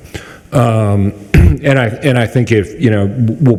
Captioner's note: clears throat